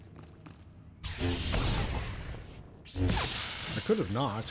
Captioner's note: gunshots